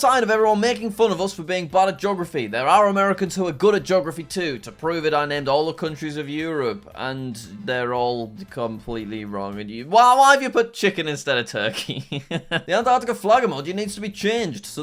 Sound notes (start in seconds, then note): 11.7 laughing